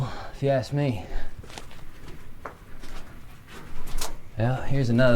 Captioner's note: footsteps shuffling